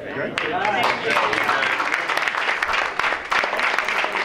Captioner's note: applause